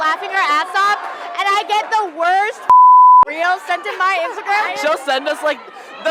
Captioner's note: beep